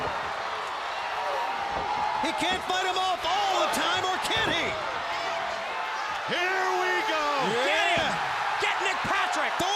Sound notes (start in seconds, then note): 3.6 crowd cheering